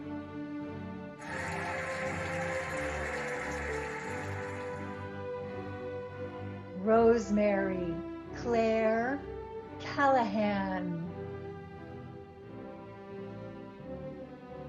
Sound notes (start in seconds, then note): 1.2 cheering and applauding; 11.6 cheerful music